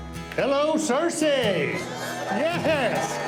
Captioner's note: crowd